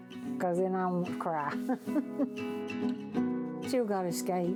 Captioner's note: chuckles